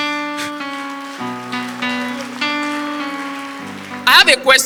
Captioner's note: audience applause